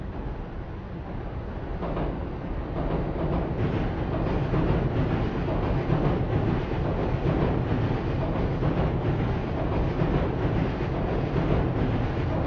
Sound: train Noises

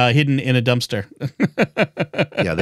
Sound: laughing

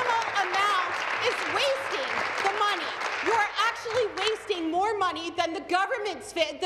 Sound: applause

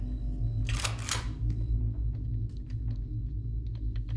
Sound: cocking shotgun

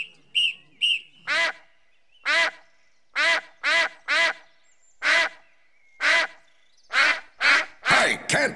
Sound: quacking

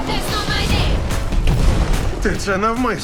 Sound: automated voice; Ballister yelling

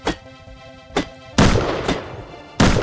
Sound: gunshot

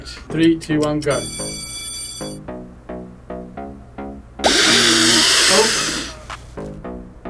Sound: bell rings; sniffs loudly

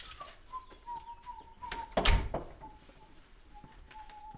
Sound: whistling

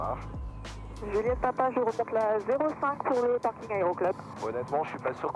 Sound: radio : taxiing runway 05

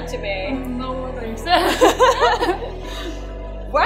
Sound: laughter

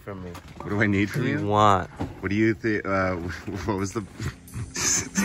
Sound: laughter

